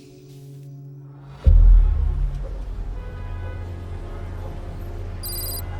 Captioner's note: car horns honking; letters clicking